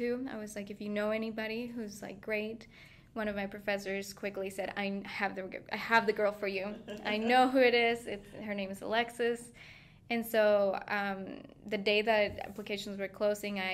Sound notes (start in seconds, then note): 6.6 laughing